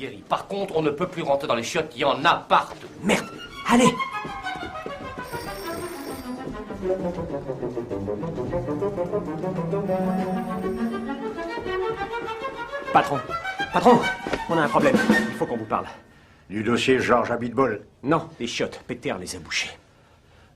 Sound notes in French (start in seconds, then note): none